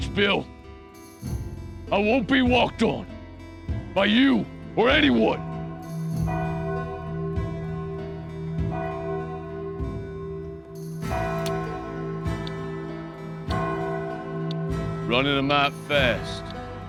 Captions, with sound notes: IT WAS NEVER THE WATCH BILL. I WON'T BE WALKED ON. BY YOU, OR ANYONE! [CHURCH BELL] RUNNIN' A MIGHT FAST.